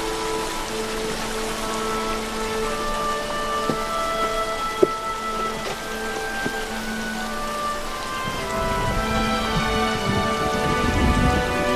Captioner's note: thunderRumbling